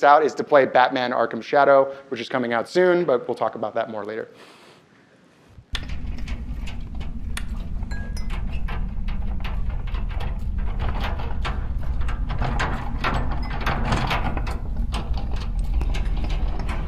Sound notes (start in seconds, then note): 5.8 mine cart clatters